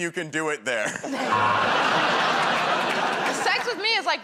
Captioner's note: buzzer